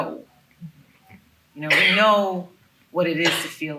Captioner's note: attendee coughing